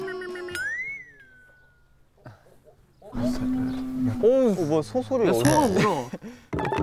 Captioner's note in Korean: 고요를 깨우는 워낭소리